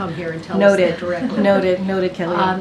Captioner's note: laughter